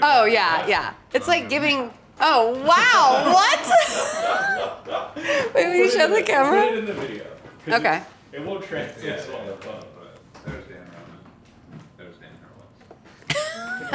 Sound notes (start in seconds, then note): 4.0 and crew laugh; 13.3 laughs